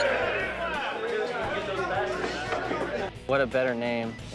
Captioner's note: group chattering